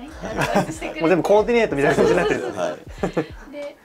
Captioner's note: laughs